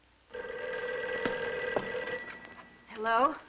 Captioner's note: phone ringing